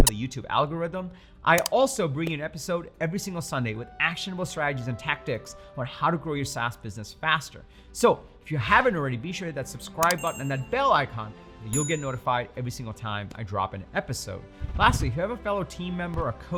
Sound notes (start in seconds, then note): 0.0 button squeaking; 1.6 button clicking; 10.0 button clicking; 11.7 bell ringing